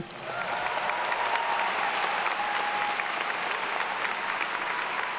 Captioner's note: everyone cheering and applauding